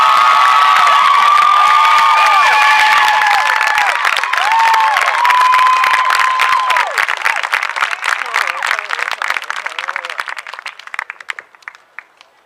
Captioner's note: cheering